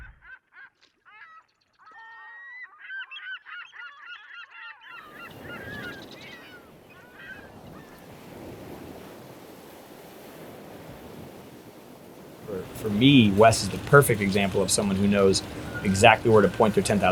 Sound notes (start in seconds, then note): 0.1 birds chirping; 5.3 waves roaring